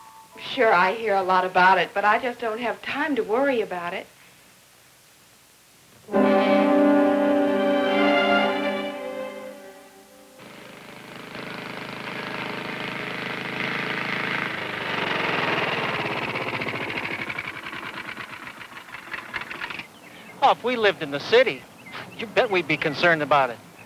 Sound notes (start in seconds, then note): 6.1 dramatic music; 10.4 lawnmower chugs